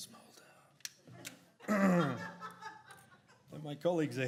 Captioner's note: women laugh